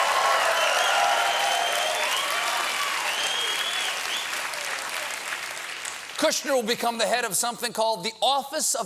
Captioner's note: cheers and applause